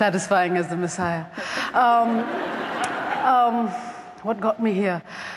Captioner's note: laughter